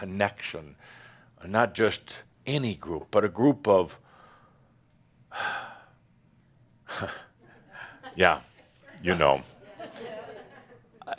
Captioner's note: a few chuckles